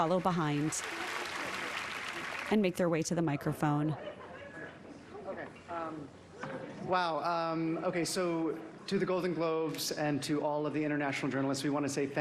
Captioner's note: applause